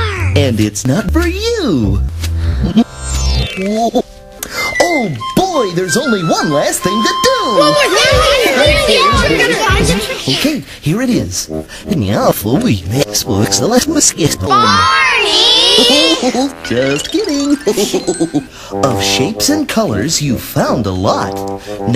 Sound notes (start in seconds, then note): 17.6 chuckle